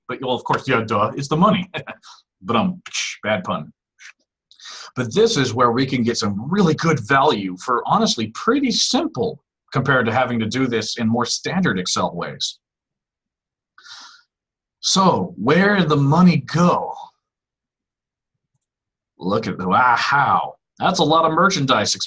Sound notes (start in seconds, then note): 2.4 imitating drum and cymbal